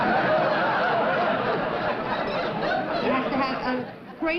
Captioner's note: laughter